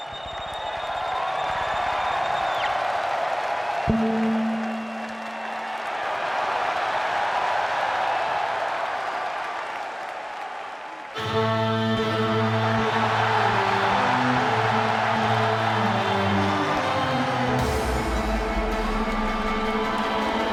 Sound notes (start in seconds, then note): 0.1 audience applauds and cheers; 13.0 dramatic music; 14.3 audience cheers